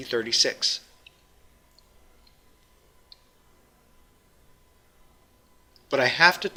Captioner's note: pause